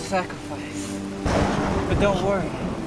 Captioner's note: thunder crashing